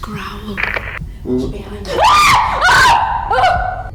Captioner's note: screams